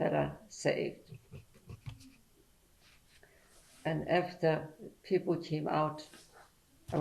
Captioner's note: pauses for 3 seconds